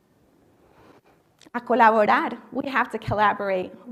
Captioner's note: speaking spanish